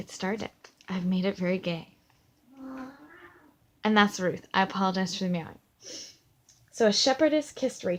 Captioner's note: cat meowing off camera